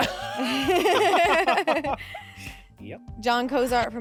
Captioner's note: everyone laughs